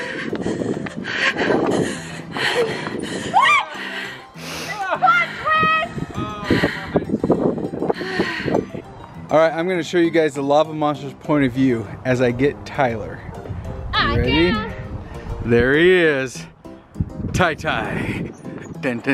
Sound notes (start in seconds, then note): 3.3 screaming; 5.0 yelling